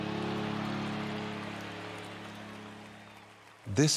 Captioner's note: cheering